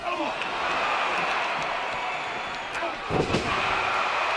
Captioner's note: audience cheering